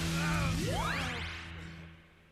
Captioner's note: screaming